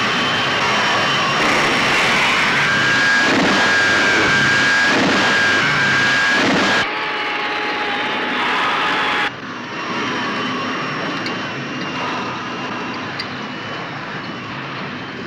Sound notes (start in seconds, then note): 2.4 zooming